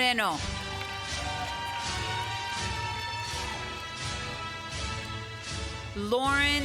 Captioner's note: applause